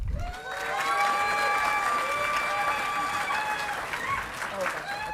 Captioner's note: audience clapping and cheering